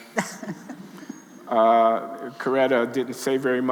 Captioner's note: laughing